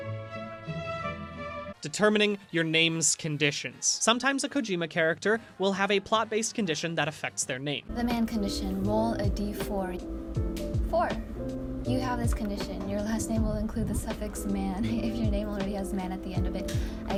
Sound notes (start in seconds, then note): none